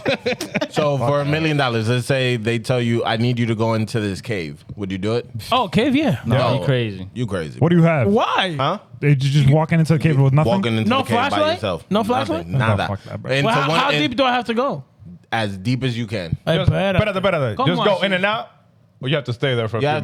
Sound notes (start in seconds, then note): 17.5 speaking In Foreign Language